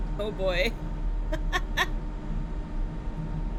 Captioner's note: laughs